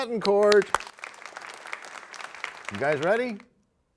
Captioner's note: applause